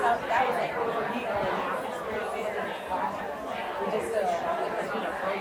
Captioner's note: people chattering continues